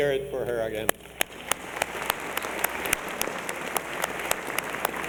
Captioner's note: applause